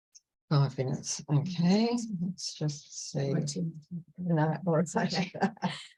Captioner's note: laughs